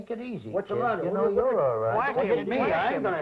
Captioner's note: chatter